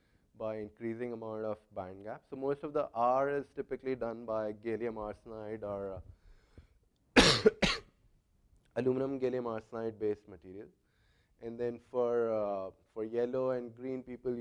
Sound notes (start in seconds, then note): 7.1 cough